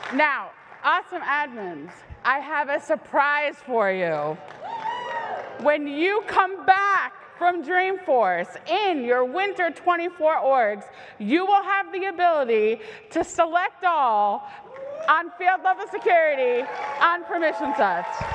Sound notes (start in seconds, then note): 4.4 cheer